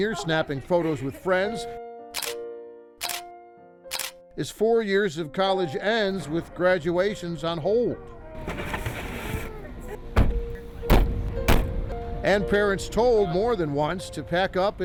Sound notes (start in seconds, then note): 3.0 camera snapping; 10.1 door and trunks slamming